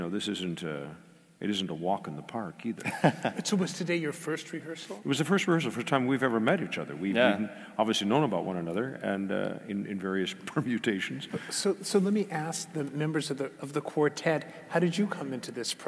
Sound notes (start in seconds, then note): 2.8 laugh